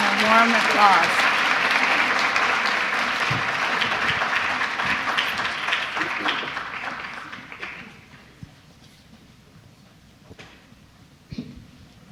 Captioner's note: applause